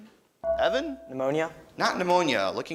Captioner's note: beeping